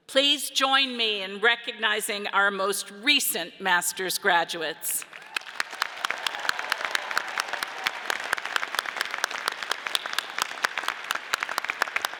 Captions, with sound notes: Please join me in recognizing our most recent Master's graduates. (audience cheers and applauds)